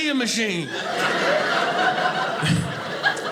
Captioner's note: audience laughing